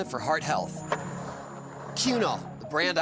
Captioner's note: skateboard wheels roaring